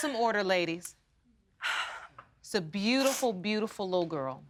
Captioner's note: sighing